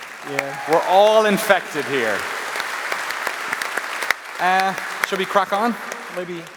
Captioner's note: applause